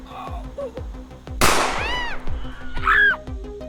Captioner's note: screams